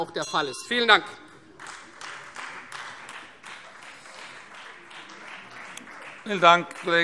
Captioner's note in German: Beifall Freie Demokraten - Unruhe - Glockenzeichen